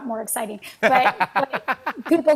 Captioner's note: laughs